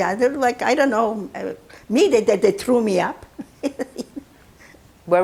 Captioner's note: laughing